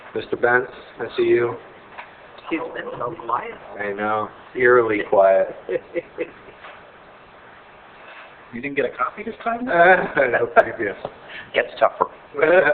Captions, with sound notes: Mr. Bentz, I see you. - He's been so quiet. - I know. Eerily quiet. (chuckling) - You didn't get a copy this time? - Get to talk for.